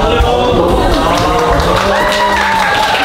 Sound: overwhelming applause from the staff

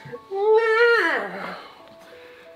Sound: wailing

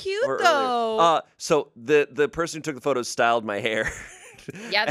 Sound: laughs

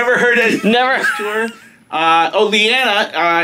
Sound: laughs

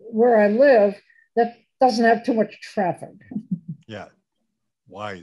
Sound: laughs

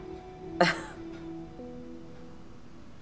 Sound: scoffs

